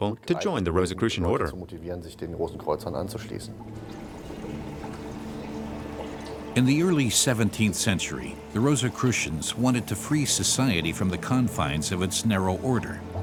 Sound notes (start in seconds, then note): 3.8 bubbling